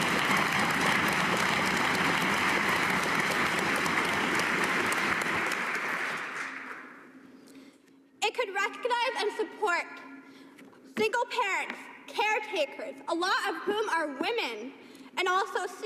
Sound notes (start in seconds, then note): 0.0 cheers and applause